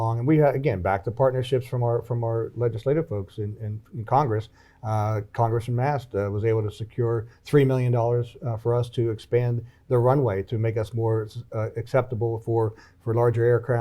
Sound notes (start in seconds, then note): none